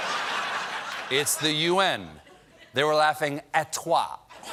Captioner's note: laughter